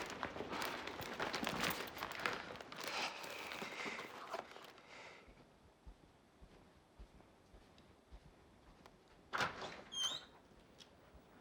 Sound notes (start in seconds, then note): 9.3 door opens